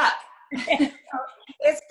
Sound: both laughs

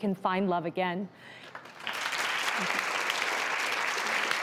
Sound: applause

